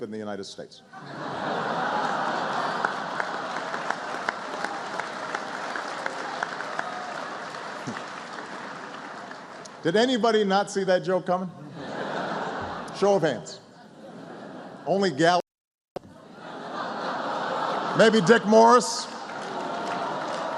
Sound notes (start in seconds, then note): 5.2 laughter; 11.6 laughter